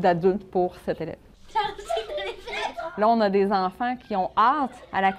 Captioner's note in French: éclats de voix